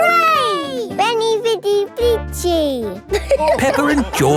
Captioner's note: all laughing